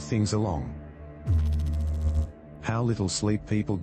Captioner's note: electrical noise